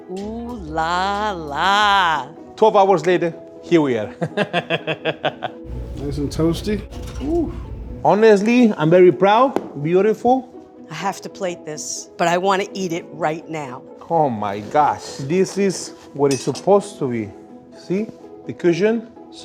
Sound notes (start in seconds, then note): 4.1 laughs